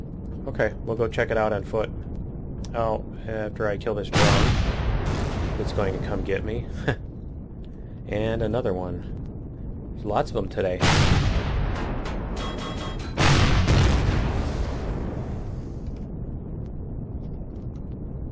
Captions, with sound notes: Okay we'll go check it out on foot. After I kill this drone [rockets] [explosion] that's coming to get me. And another one. Lots of them today. [rockets] [pinging] [explosion]